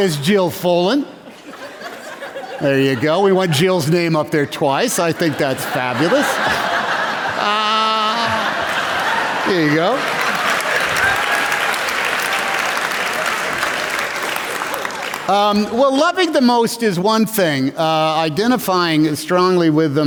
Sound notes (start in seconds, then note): 5.0 laughter